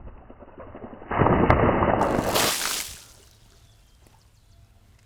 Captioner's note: water splashes